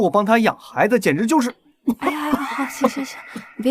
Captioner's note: cough cough cough